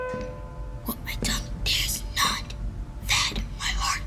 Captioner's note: whispering